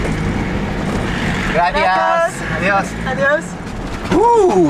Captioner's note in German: Beide auf Spanisch